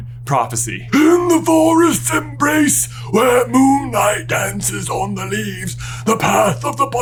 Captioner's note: croaky voice